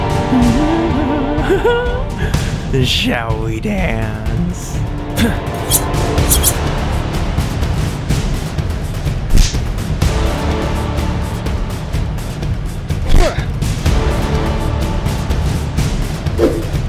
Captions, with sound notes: [CHUCKLE] HEHEHEH... SHALL WE DANCE?